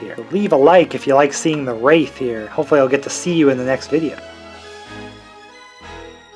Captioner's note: rolling canon balls